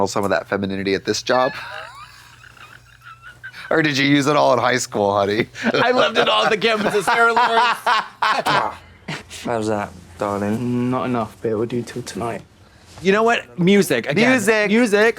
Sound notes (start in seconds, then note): 2.0 Katya gasps; 7.9 blonde Women laugh